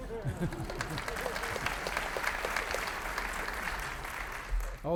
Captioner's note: audience applauding